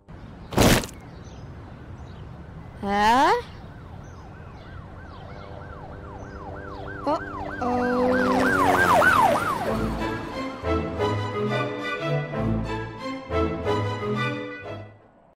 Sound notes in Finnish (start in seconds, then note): 3.1 poliisiajoneuvojen ääntä; 7.6 helikopteri lentää yli